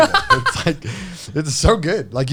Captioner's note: laughs